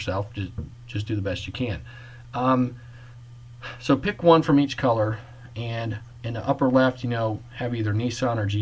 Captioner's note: sigh